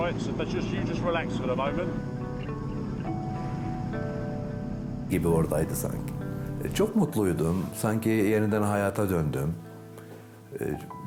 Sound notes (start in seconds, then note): 2.0 boat droning; 3.1 pensive music; 5.1 speaks in foreign language